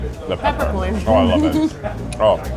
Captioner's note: laughs